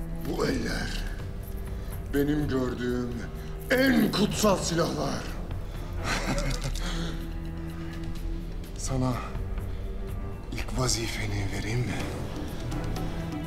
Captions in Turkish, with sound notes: Bu eller, benim gördüğüm en kutsal silahlar. (Vasilius gülme sesi) Sana ilk vazifeni vereyim mi?